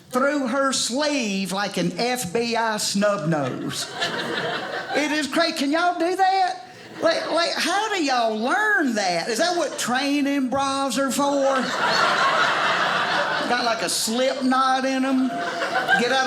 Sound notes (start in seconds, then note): 11.3 audience laughing